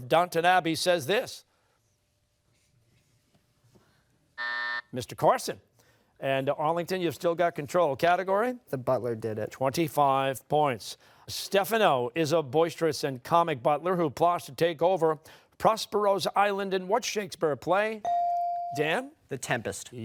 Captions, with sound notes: What butler of Downton Abbey says this? (buzzer sounding) Mr. Carson. And Arlington, you've still got control. Category? >> The Butler Did It. >> 25 points. Stephano is a boisterous and comic butler who plots to take over Prospero's Island in what Shakespeare play? Dan?